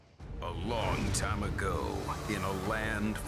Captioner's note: speaking as Announcer